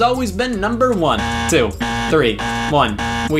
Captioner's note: game buzzer